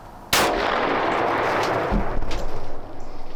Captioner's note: gun fires